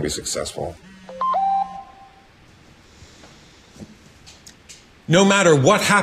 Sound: phone beeps

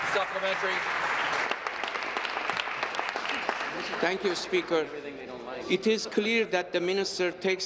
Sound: applause

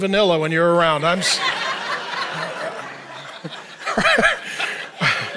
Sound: audience laughing

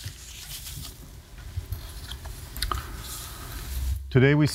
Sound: rustling

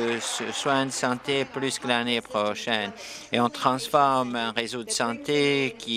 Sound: applause

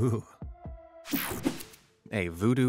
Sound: screen whooshing

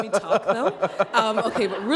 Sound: laughter

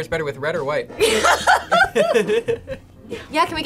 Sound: both laugh

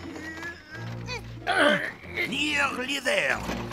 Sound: grunting

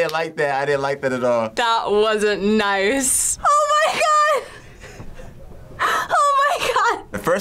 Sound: laughs

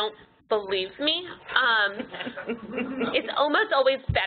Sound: laughing

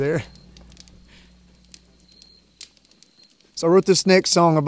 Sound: fire crackles

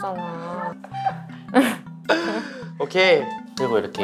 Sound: chuckling

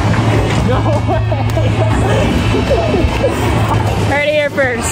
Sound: friend cheering and laughing excitedly

